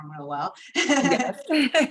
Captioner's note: laughter